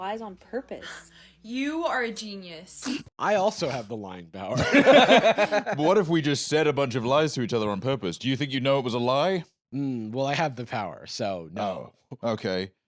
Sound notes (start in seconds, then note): 4.5 both laugh